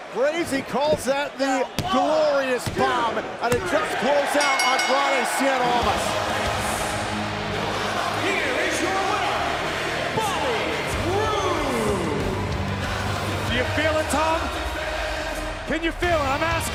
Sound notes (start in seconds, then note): 4.3 bell ringing; 6.8 crowd cheering